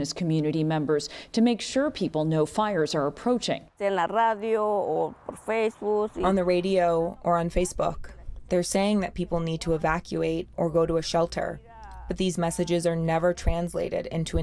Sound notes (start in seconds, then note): 5.1 through translator